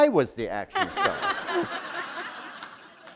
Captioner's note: laughter